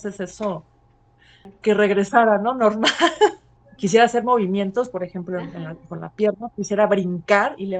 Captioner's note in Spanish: ríe